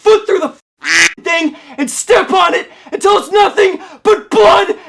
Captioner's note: quack